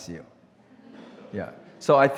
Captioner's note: audience laughs